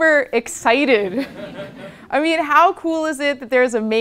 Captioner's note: laugh